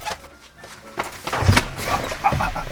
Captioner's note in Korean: 쿵!